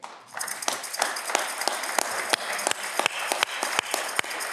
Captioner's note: audience clapping